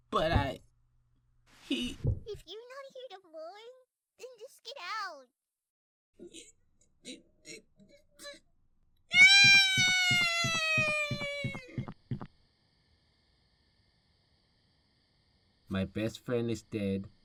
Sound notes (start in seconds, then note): 6.1 MASAO tries to hold back tears; 9.4 MASAO cries